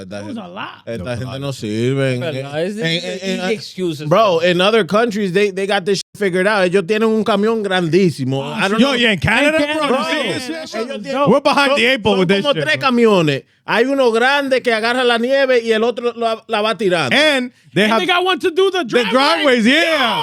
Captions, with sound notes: That was a lot. (Speaking In Foreign Language) Bro, in other countries, they got this figured out. (Speaking In Foreign Language) Yo, you in Canada, bro? (Speaking In Foreign Language) And they have-- And they got one to do the driveway. The driveway, yeah.